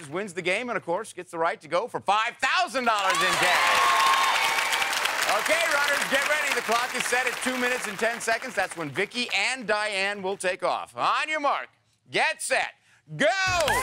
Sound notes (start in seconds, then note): 2.9 audience cheers